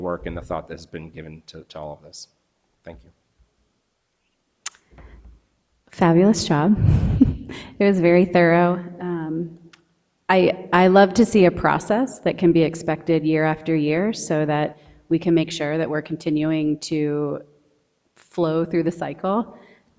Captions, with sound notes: and the thought that has been given to all of this. Thank you. - Fabulous job. (laughs) It was very thorough. I love to see a process that can be expected year after year so that we can make sure that we're continuing to flow through the cycle